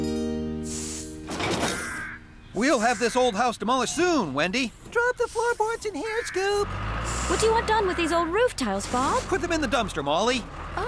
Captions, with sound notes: ( Boards Clatter ) WE'LL HAVE THIS OLD HOUSE DEMOLISHED SOON, WENDY. DROP THE FLOORBOARDS IN HERE, SCOOP! WHAT DO YOU WANT DONE WITH THESE OLD ROOF TILES, BOB? PUT THEM IN THE DUMPSTER, MOLLY.